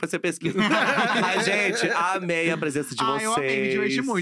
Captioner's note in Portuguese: risos